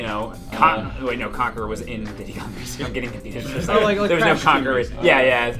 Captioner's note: laughs